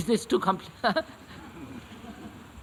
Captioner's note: laughter